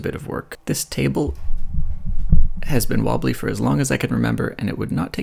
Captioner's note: wobbling sounds